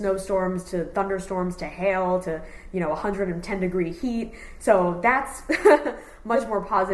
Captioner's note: laughs